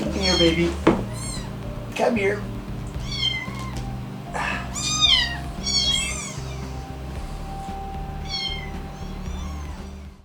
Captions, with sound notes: Come here baby, come here. (kitten meowing)